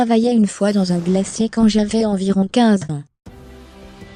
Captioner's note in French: whoosh cosmique; musique dramatique